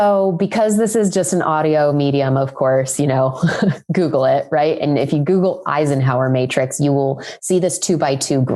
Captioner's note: laughs